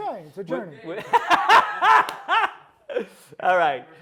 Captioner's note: laughing